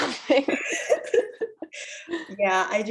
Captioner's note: laughter